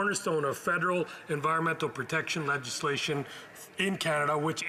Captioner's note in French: voix de l'interprète